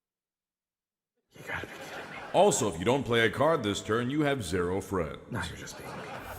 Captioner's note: applause